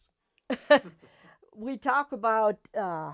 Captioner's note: laughs